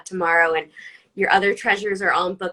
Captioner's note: none